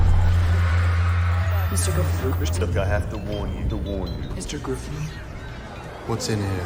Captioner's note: echoing